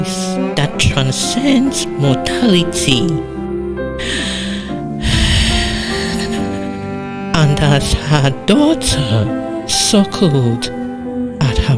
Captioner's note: breath